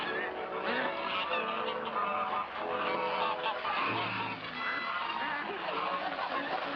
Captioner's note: geese honking; water rushing